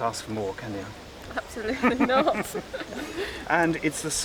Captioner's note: they laugh